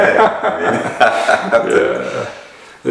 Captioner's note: laughter